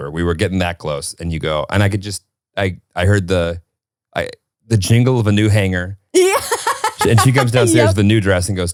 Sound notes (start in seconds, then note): 6.2 laughing